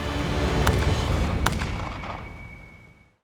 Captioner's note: gunfire